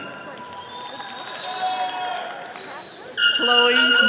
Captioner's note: attendees cheering